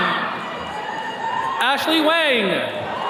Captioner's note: attendees cheering